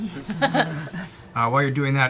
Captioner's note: laughter